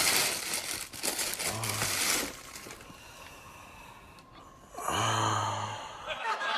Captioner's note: sexually sighing; sighing; laughter